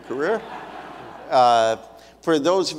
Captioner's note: audience laughs